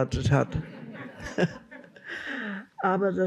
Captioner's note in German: Lachen